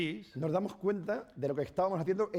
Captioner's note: speaking spanish